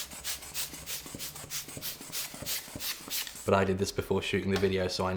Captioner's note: air pump whooshing